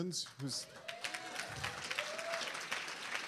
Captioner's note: applause